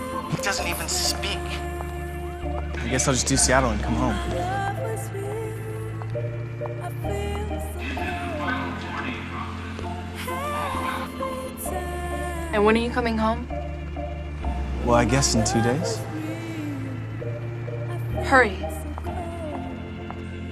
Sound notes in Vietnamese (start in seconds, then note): 5.9 tiếng quạt trực thăng; 6.7 tiếng từ phòng điều kiển